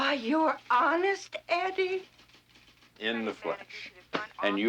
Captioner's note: chuckling